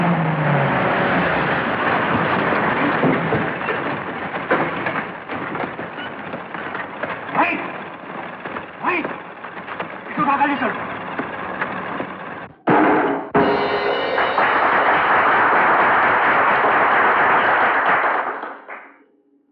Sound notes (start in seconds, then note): 13.4 crowd Applauding